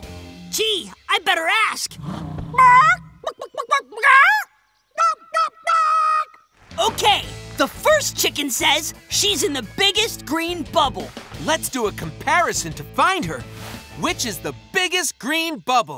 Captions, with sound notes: Gee, I better ask! [imitates clucking] [clucking] OK, the first chicken says she's in the biggest green bubble! Let's do a comparison to find her! Which is the biggest green bubble?